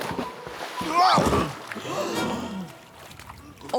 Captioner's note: grunts